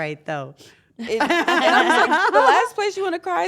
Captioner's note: laugh